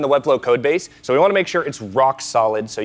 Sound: none

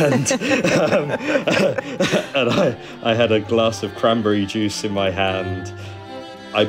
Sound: laughing

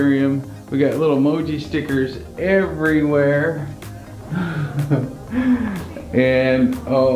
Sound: laughs

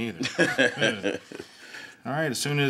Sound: Gates laughs

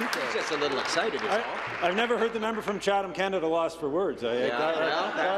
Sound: applause

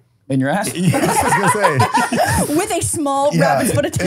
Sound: laughing

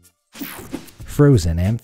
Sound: image whooshing

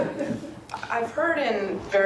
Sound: students laugh

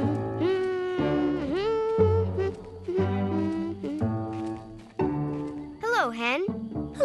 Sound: humming

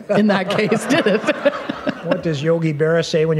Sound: laughter

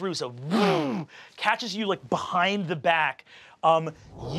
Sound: mimics zooming

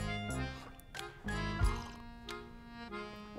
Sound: sniffs, sips; swallows

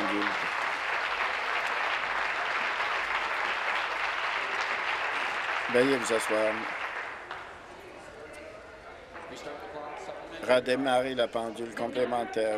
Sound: applause

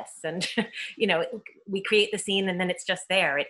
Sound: laughs

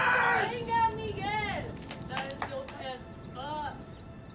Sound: claps hands

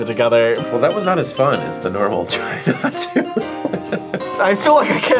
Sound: laughs

